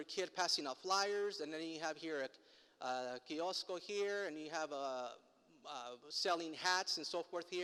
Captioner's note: foreign language